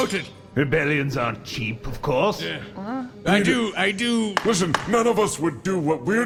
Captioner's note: bangs gavel